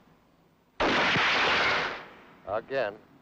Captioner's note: gun fires